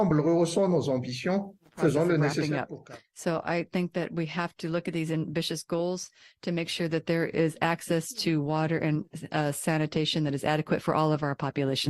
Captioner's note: speaking french